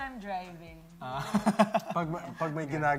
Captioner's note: laughs